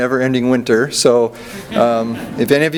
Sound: audience laughs

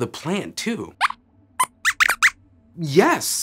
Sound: squeaks squeaks

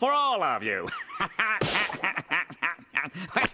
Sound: laughing

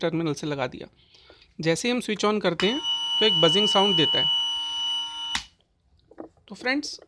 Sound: beeeeeeeeep Sound Coming

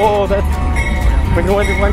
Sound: train bell

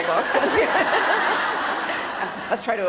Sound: laughter

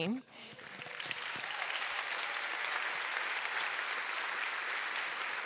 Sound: audience applauding

